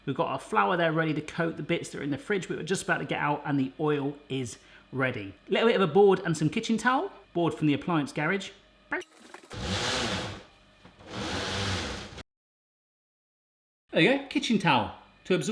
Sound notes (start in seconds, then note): 11.0 metal sliding